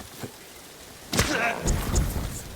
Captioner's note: grunts